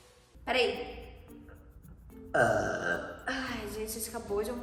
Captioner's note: burping